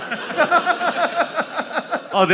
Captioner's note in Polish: śmiech